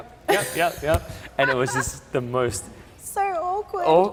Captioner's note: laughs